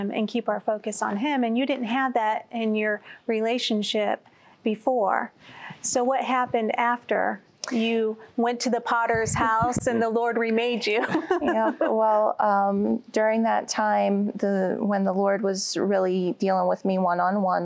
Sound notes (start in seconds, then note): 10.9 giggling